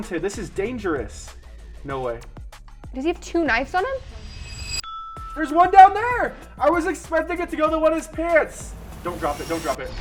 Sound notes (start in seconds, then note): 4.3 bell rings